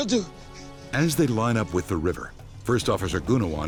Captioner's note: voiceover